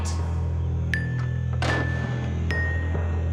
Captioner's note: door slams